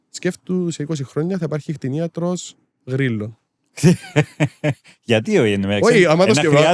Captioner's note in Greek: γέλια